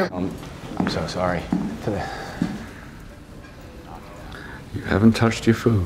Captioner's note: Chef making heavy footfalls